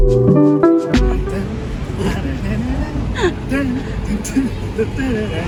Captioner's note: dad humming